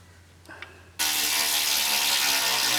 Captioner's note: power tool sound